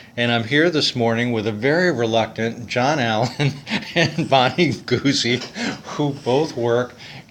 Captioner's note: laughter